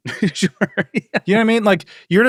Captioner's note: laughs